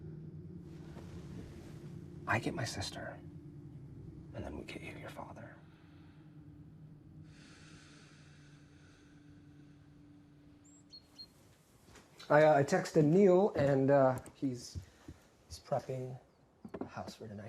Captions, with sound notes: I get my sister, and then we'll get you your father. (Maria exhales) I texted Neil, and he's prepping the house for tonight.